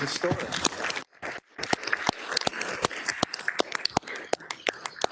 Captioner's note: people applauding